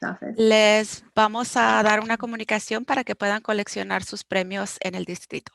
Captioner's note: speaking foreign language